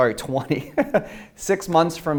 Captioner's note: chuckles